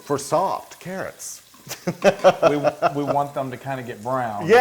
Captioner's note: laugh